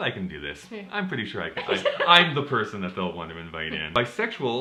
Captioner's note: laughter